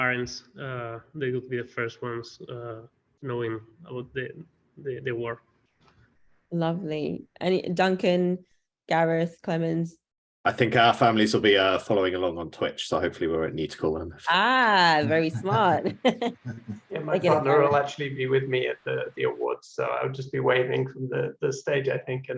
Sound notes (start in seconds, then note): 14.9 laugh